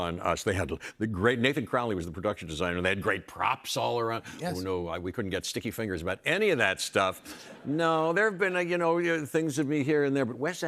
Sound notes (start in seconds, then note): none